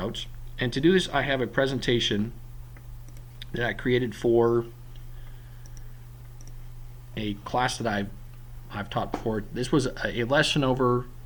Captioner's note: clicking